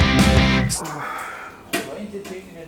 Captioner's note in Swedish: Suck